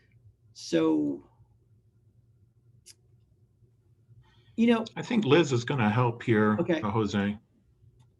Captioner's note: pause